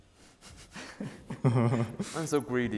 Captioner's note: laughing